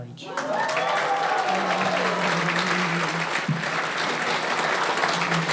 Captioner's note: audience cheering and applauding